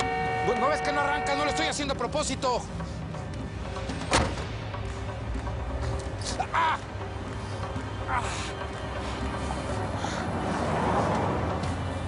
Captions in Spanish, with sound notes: ¿NO VES QUE NO ARRANCA? !NO LO ESTOY HACIENDO A PROPOSITO! [Portazo] !AH! !AH!